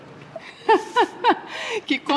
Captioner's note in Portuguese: Mulher ri; suspira